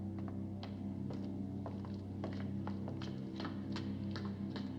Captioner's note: footsteps Overhead